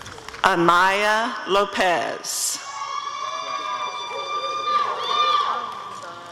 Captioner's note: applause and cheering